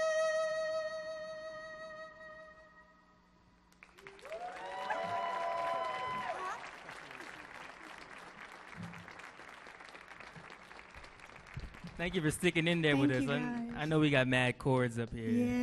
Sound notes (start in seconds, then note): 4.0 audience cheers and applauds